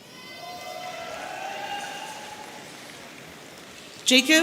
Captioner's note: audience cheering